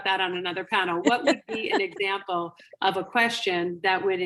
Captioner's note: laughing